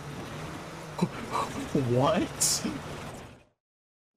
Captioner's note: laughs